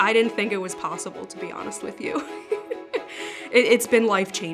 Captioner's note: laughs